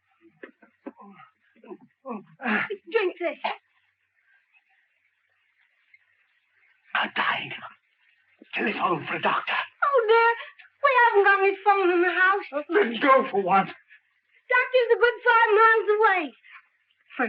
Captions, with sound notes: (gasping deeply) Drink this. I'm dying. Telephone for a doctor. Oh, no, we haven't got any phones in the house! Then go for one. Doctor is a good five miles away.